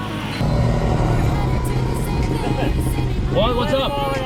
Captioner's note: engines roaring over singing